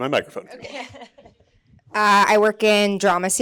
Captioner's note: chuckling